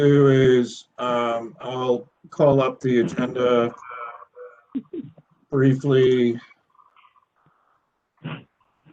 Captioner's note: laughter